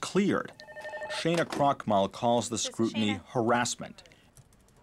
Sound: phone rings

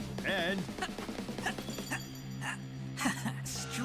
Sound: grunting

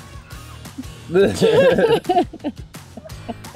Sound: laughing

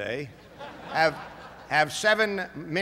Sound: laughter

